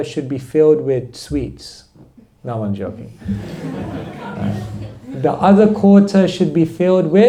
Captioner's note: laughter